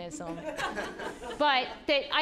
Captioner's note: audience laughing